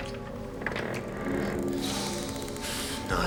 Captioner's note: door creaking